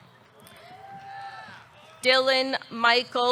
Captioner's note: audience cheering